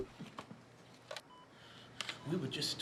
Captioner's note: machine beeps